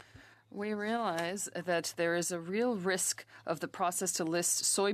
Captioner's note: speaking French